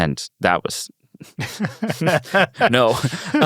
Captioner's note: laughs